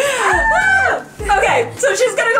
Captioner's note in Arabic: تضحك كريستال